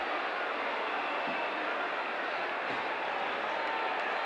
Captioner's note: audience cheering